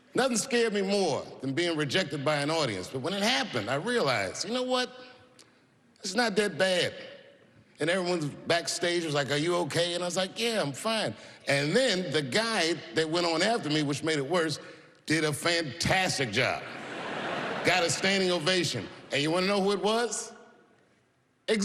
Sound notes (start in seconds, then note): 16.7 laughter